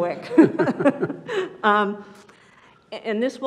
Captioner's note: laughs